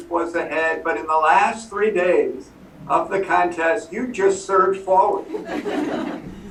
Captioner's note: laughter